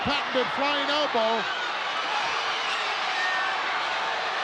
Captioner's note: crowd yelling